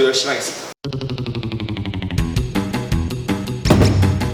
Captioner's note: distant kick